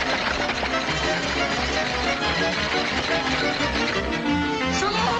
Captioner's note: frenzied music; machine chomping